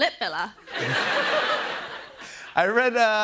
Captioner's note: laughter